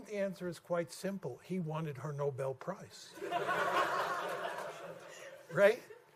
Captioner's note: laughter